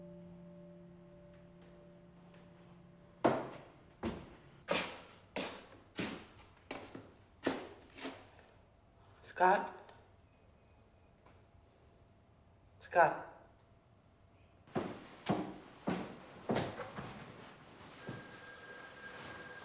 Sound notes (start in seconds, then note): 17.8 phone ringing